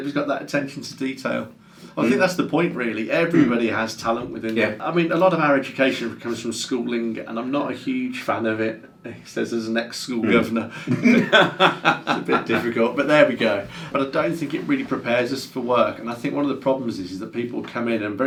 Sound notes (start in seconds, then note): 10.8 laughs